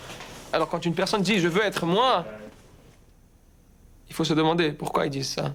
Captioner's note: speaking in foreign language